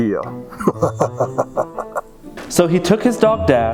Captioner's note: sinister laughing